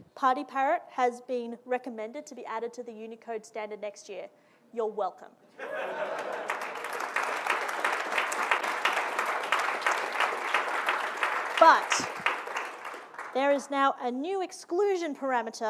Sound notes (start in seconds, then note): 5.6 audience laughing and applauding